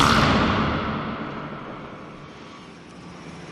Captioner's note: explosive shitting; shitting echoes; airplane landing